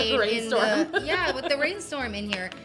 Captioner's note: laughs